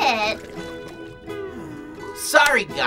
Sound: sighs

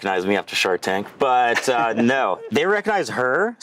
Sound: laughing

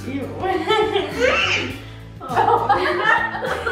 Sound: laughs

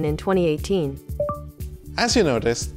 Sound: low beep

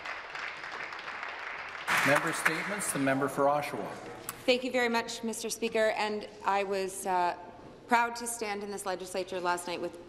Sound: applause

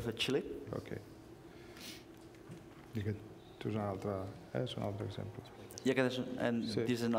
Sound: speaking catalan

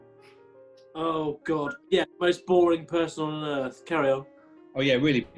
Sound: whistles

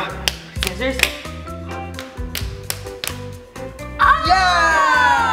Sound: hands slapping

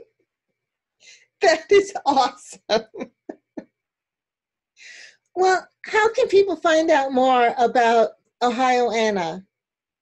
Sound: laughs

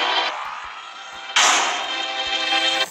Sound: banging

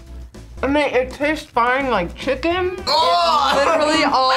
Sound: laughs

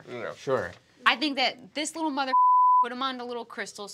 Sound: beep

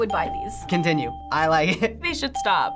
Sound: chuckling

